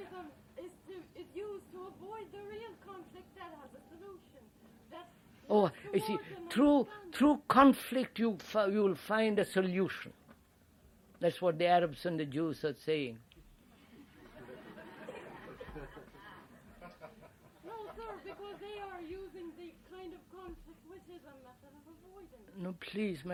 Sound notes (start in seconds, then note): 13.8 laughter